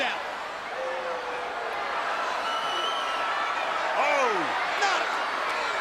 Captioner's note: crowd cheering